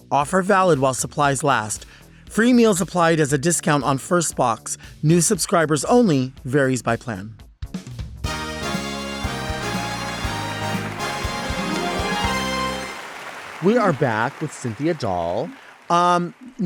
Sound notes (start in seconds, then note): 8.2 upbeat music; 12.5 audience applauding